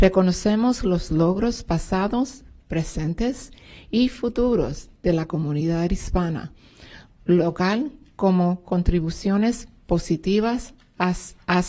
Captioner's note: speaking spanish